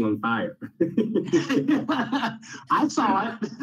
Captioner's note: laughter